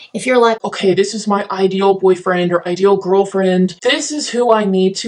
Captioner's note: low-pitched voice